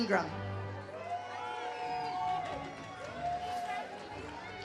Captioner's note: audience cheers